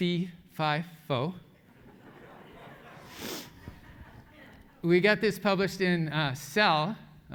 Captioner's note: laugh